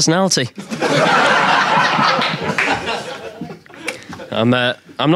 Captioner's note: audience laughing